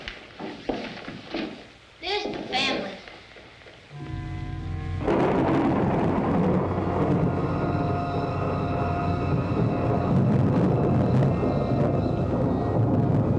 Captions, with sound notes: This is the family. [dramatic music playing] [thunder]